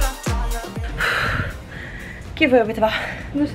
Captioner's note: exhales